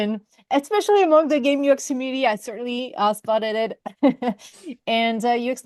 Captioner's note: laughs